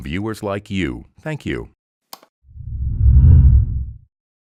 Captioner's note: whooshing noise